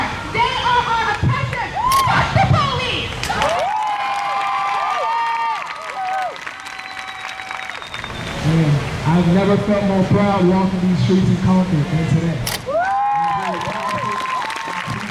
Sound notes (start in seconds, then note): 3.3 crowd cheers; 12.6 crowd cheers